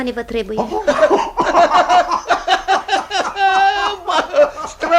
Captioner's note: both laugh heartily